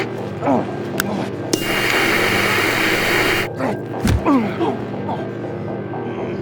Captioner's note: static scratching; Pavel groans; static scratching